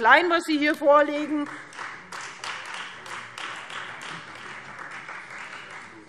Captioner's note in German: Beifall Freie Demokraten